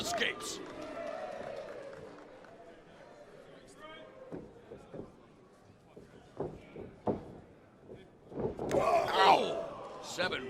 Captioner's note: crowd chatter